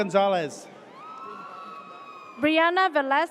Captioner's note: audience cheers